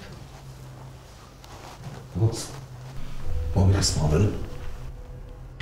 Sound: Zhozef speaking in foreign language

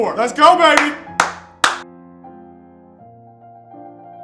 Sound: hands clapping

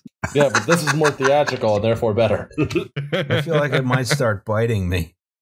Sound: laughter

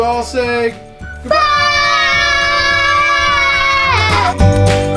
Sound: screaming in unison

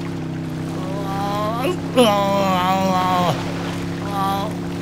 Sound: hiccup

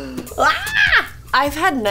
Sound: screams

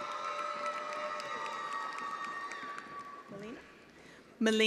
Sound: attendees applauding

